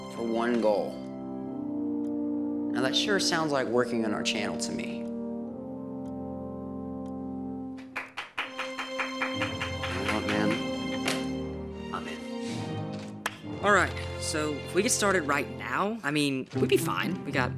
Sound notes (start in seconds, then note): 7.8 clapping